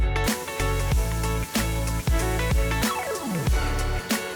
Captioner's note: upbeat music continues; water sprays